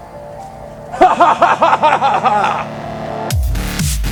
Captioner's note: laughs